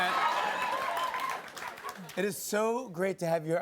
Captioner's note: laughter and applause